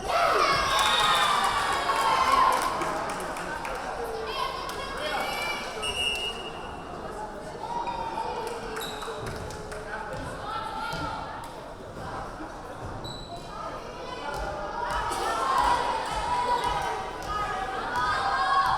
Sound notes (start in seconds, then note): 0.0 cheering; 1.3 whistle blowing; 5.2 yelling; 5.8 whistle blowing; 9.5 yelling